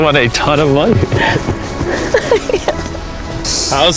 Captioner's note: sobbing